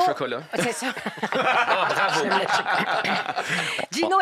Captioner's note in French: rires